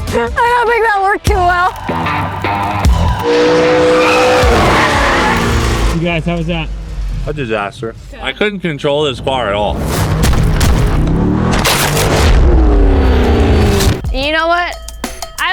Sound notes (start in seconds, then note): 3.5 engine revving; 3.5 tires screeching